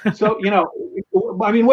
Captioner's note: laughs